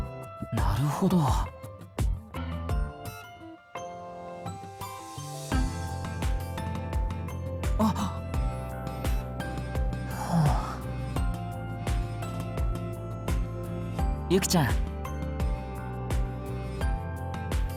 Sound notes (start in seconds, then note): 4.8 sigh